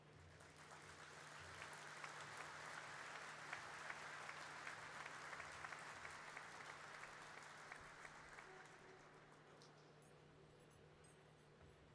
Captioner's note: applause